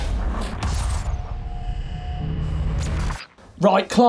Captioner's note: electric buzzing